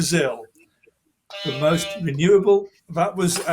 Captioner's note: horn honking